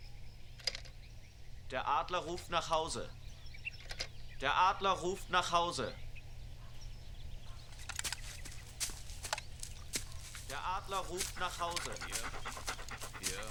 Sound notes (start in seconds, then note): 1.5 speaking german